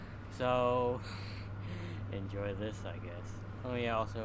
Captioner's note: laugh